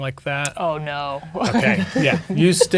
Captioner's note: laughing